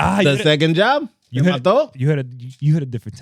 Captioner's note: speaking In Foreign Language